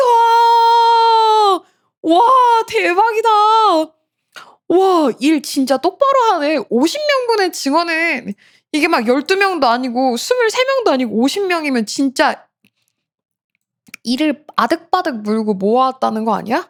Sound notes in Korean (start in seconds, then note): 0.0 비명